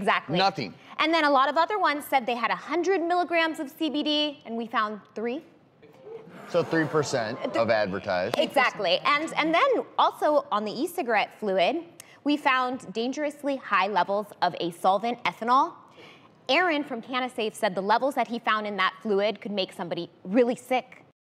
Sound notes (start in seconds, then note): 5.9 audience gasps